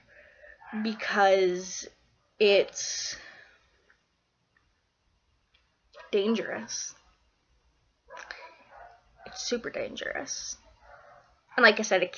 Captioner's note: dogs barking in background